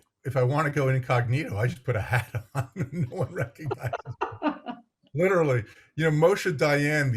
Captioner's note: laughs